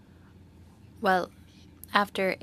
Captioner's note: speaking French